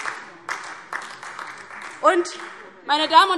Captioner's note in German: Beifall DIE LINKE, vereinzelt SPD und Freie Demokraten